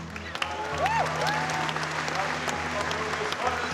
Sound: cheering, applause

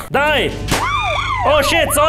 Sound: still very bad scream

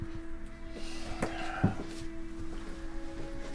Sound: he exhales

